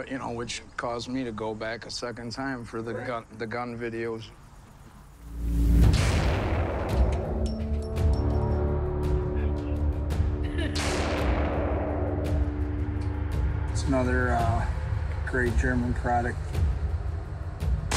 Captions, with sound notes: you know, which caused me to go back a second time, for the gun videos. (belligerent music) (gun blasts) - Heh. (gun blasts) - It's another great German product.